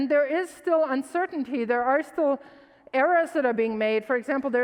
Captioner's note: none